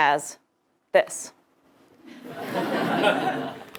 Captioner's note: laugh